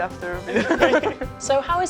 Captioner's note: laughing